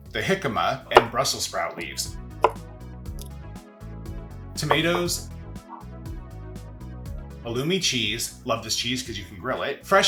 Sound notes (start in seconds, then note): 2.4 cheerful music; 2.6 knife tapping; 5.7 cheerful music